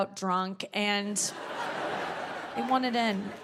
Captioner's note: audience laughing